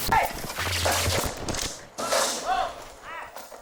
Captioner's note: loud thud; TV scrambles